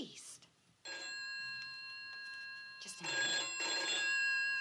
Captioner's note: phone ringing